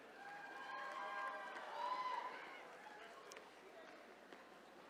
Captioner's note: attendees cheering